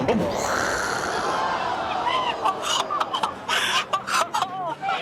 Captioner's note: audience gasps